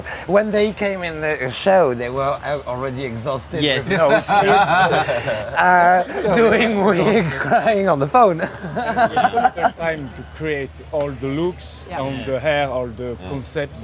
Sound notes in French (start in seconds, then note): 3.8 rires